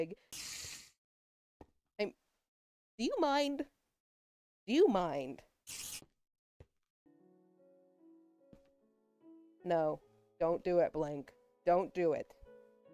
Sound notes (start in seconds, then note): 0.3 multiple overlapping spider hisses; 5.7 spider hisses